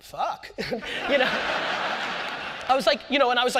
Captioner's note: audience laughter